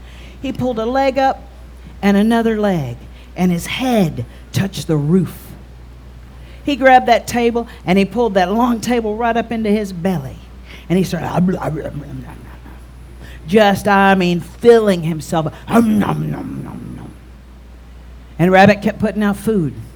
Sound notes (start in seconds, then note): 11.3 om nom nom nom nom; 15.7 om nom nom nom nom